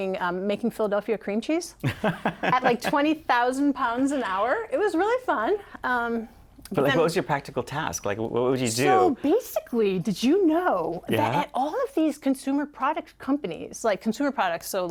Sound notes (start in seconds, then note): 1.8 laughter